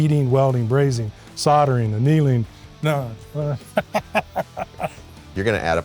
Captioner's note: laughs